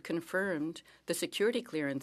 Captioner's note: speaking French